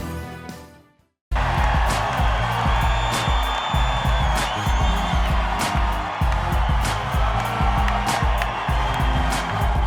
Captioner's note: cheering